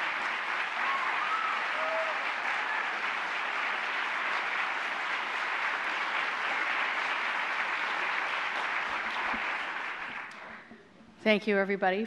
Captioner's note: applause